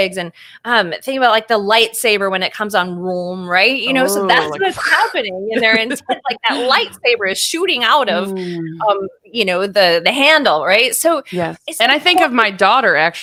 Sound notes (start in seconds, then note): 4.5 growling; 5.5 laughing